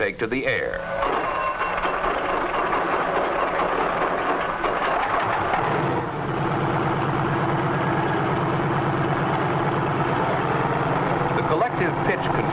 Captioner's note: engine noises